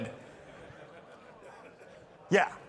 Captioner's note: participants laughing